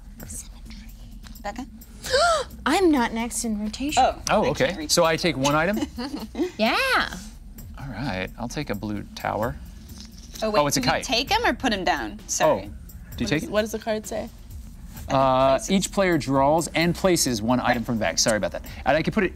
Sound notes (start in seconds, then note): 2.0 gasping